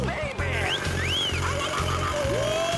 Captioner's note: wolf whistling, whooping